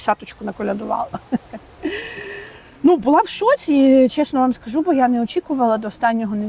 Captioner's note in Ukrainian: сміх